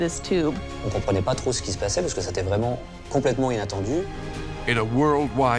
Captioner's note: man speaks in foreign language